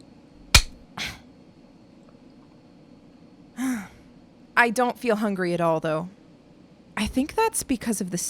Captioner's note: SFX: cutting a thread